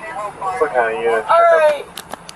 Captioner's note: radio chatter